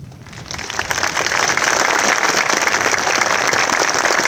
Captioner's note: audience applauding